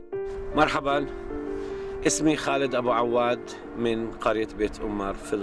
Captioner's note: speaking foreign language